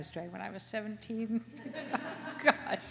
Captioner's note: laughter